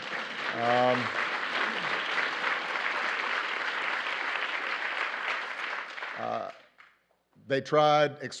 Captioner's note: applause